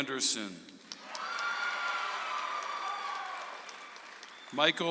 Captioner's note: audience applauds